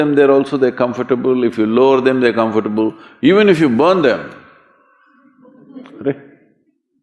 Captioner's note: laughter